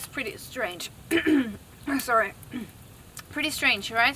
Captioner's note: ahem